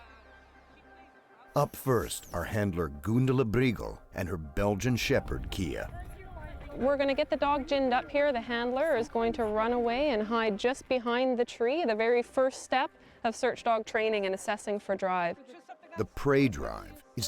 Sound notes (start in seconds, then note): 5.1 voiceover